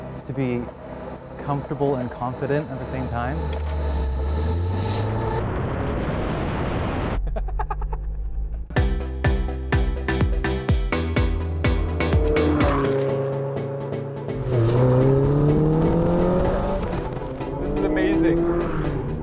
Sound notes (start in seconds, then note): 5.4 engine roars; 7.2 laughs; 8.6 upbeat music; 14.4 engine roars